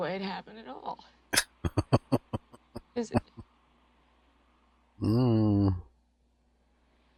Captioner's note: chuckling